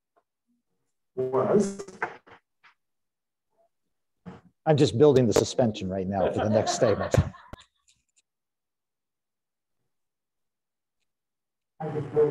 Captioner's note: laughter